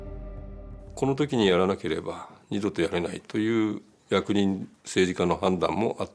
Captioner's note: speaking in Japanese